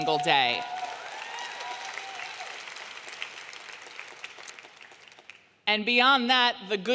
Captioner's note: audience clapping and cheering